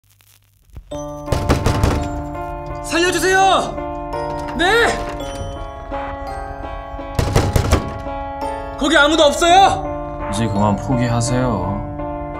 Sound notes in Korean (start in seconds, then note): 1.3 쾅쾅쾅쾅; 7.1 쾅쾅쾅쾅